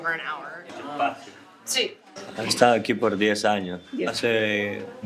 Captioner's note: speaking in Spanish